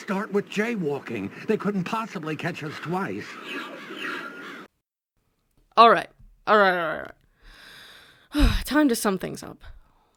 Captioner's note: sigh